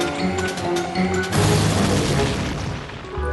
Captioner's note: crash